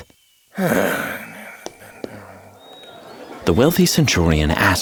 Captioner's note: Julius sighing